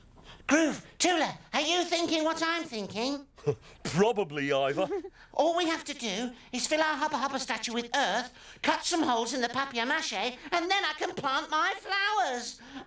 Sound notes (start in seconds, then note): 4.7 chuckles